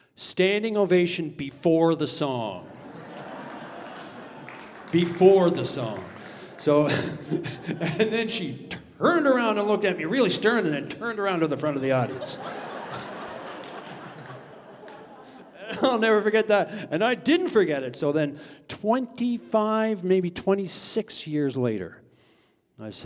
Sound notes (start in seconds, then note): 2.5 audience laughter; 7.4 laughing; 13.8 laughter